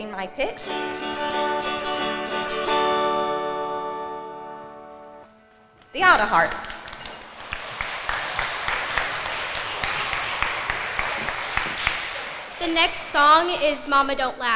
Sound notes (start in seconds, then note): 0.0 autoharp strumming; 6.0 crowd clapping